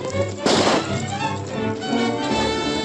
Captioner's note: gunshot